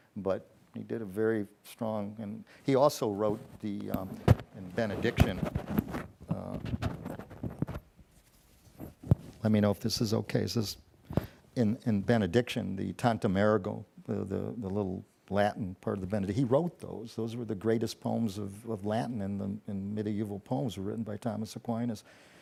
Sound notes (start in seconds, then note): none